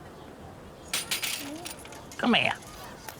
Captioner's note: crate rattling